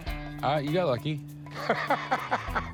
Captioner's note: laughs